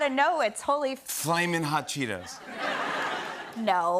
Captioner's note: laughter